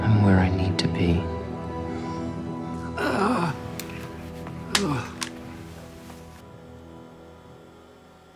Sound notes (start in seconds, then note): 2.9 groaning